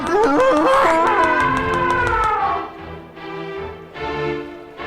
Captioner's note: elephant trumpeting